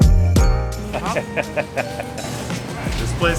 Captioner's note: laughter